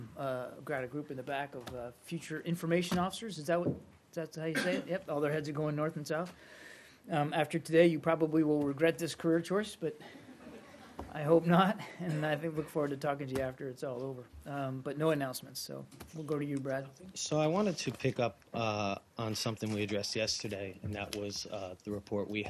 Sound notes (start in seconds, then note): 10.1 laughter